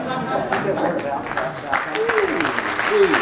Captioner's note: laughing; applause